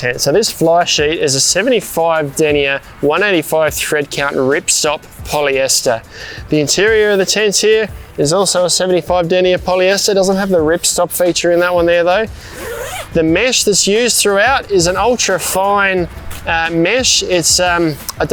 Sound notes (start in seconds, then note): 12.4 unzips